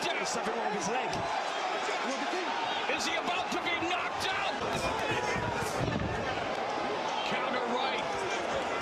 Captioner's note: cheering